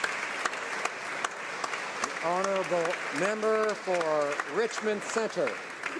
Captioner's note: some Applause